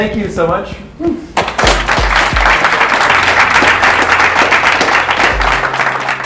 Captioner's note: applause